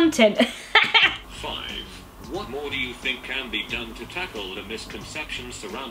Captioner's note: laughs; text to speech